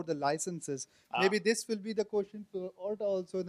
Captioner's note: voiceover